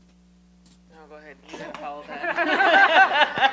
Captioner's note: laughter